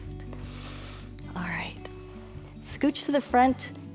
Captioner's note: inhales